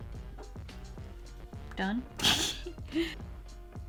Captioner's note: laughs